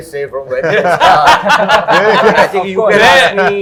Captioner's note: laughs